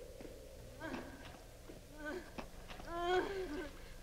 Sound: woman sobbing

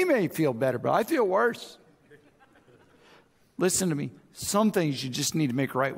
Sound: audience chuckles

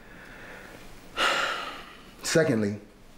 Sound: exhaling softly

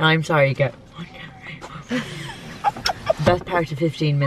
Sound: laughs

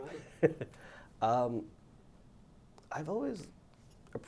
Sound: laughs

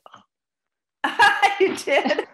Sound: laughs loudly

